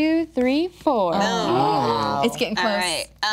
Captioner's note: group groaning